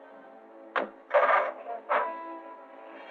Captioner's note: engine starting